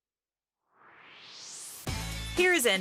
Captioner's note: swoosh